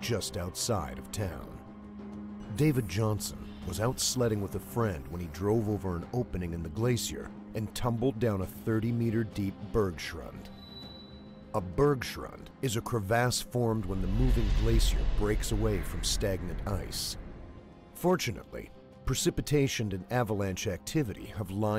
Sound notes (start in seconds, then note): 1.9 voiceover